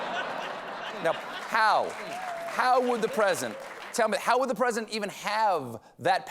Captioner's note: laughter